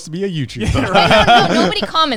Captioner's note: all laughing